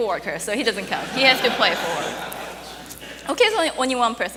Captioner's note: audience laughing